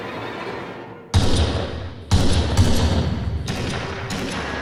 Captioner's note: gunshots booming